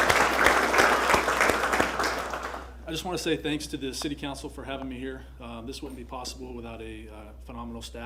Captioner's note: applause